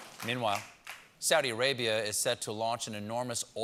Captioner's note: cheers and applause